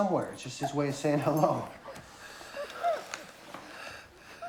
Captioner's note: breathing heavily